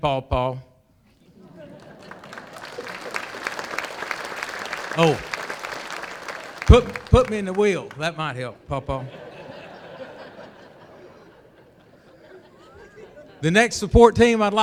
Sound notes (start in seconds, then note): 1.5 applause; 11.5 laughter